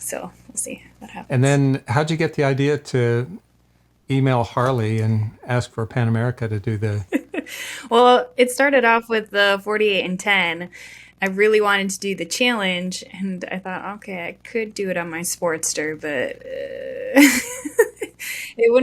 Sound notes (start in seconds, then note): 8.1 laughs; 17.2 laughs